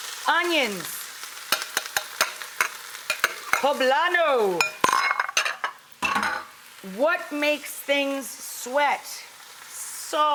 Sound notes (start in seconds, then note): 3.1 bowls clink